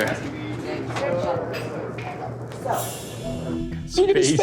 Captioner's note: customers chattering; suspenseful music